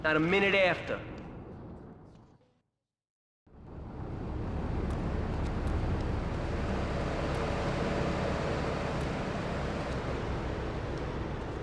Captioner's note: engine roaring